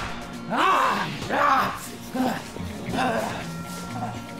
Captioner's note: gunshot blasting; Dalton grunts